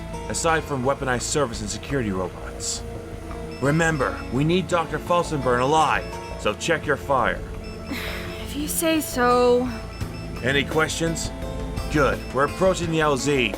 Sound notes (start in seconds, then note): 7.8 sighing